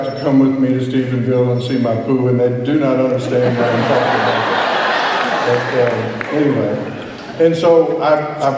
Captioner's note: laughter